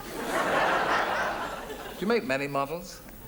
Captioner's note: audience laughs